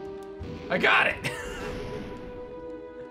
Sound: giggles

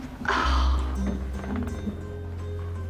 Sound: sighing; clears throat

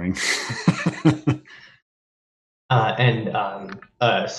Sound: laughs

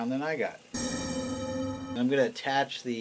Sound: oven rack chiming

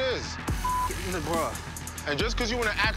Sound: beep

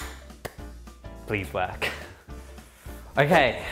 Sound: laughs

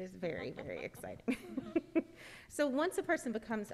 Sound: laughing

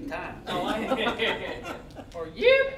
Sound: all laughing

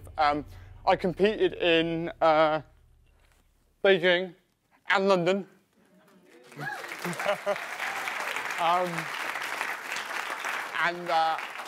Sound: cheering and applause

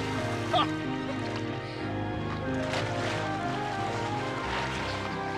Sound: water splashing

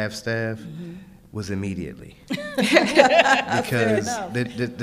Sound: laughing

